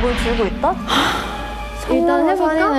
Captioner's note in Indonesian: Sigh